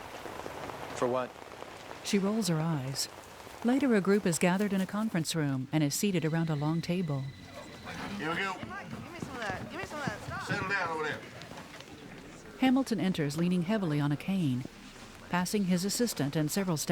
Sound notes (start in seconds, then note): 0.1 scoffs; 3.9 phone Ringing; 6.7 chattering